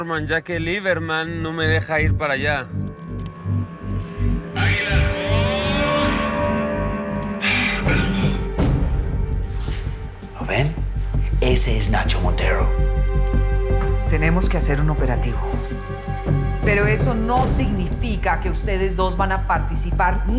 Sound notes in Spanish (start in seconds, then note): 4.4 A gritos